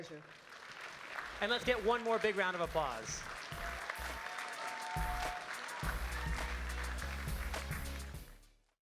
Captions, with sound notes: - Been my pleasure. (crowd applauding) - And let's get one more big round of applause. (crowd cheers and applauds) (upbeat music)